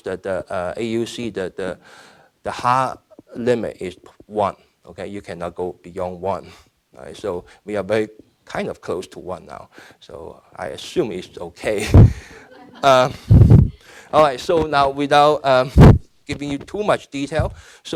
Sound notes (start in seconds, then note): 11.8 laughing; 11.9 audience laughing